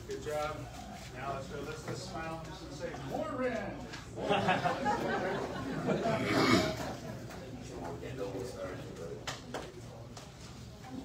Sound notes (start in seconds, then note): 4.2 audience chuckles; 6.9 indistinct chatter